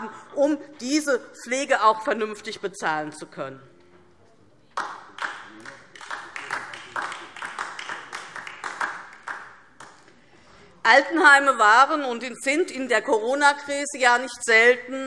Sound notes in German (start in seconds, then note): 4.7 Beifall DIE LINKE